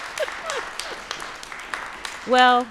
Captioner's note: people clapping